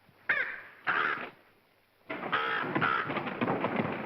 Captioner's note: crow squawks; feet pounding